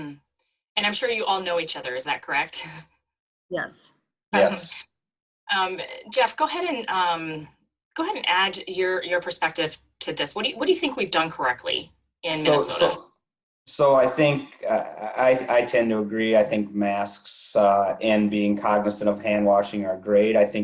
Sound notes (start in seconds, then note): 4.4 chuckles